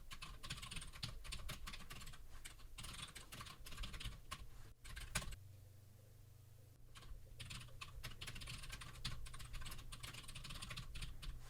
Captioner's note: typing sounds